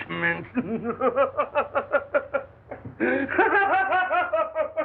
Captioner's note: maniacal Laughter